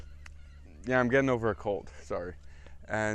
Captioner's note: sniffles